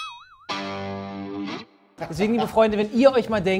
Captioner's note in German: Boing, Gitarrenakkord